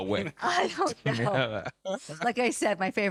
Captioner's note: laughing